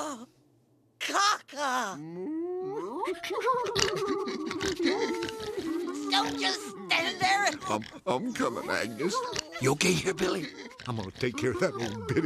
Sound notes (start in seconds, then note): 2.0 animals chortling